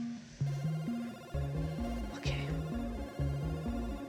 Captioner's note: whispering